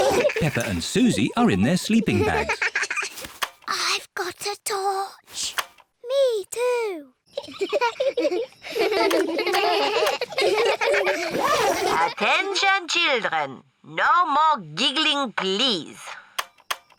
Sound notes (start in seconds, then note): 3.7 whispering; 7.3 both giggle; 9.5 all giggling